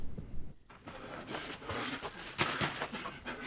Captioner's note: heart pounding; breathing heavily